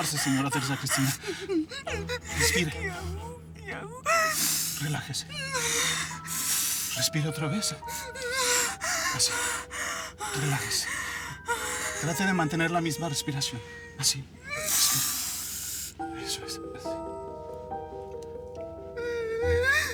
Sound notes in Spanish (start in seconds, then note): 3.9 Sollozos; 7.2 Respiración alterada